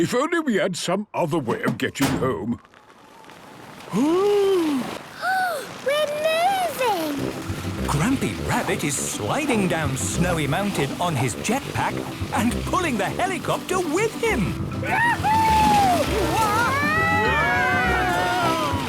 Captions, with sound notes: If only we had some other way of getting home... - (clangs) - (sliding) - Oooh! - (Peppa gasps) We're moving! - Grampy Rabbit is sliding down Snowy Mountain on his jetpack, and pulling the helicopter with him! - Wahoooo! - (all screaming excitedly)